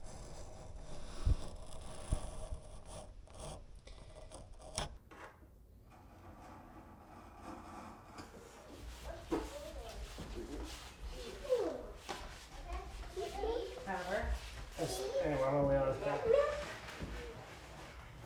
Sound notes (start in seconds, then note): 0.0 tool scraping; 11.8 kids chattering; 14.0 adults chattering indistinctly